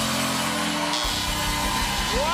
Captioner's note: buzzer